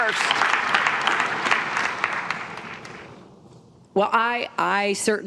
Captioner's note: applause